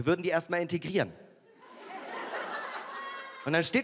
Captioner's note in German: Lachen